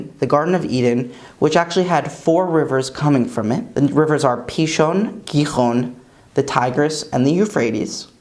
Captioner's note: Hebrew